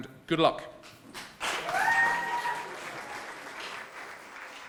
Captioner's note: applause